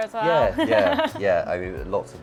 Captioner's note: laughs